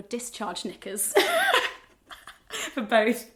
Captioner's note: laughs